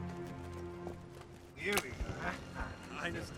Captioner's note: speaking German